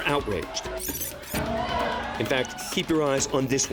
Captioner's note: shouting